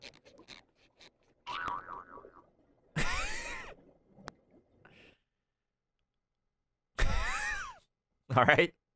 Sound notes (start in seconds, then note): 6.8 laughs